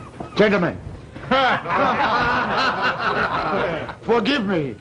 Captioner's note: laughter